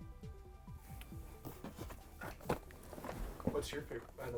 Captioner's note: shuffling